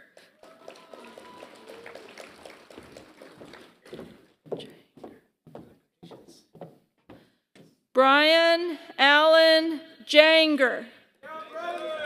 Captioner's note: applause; applause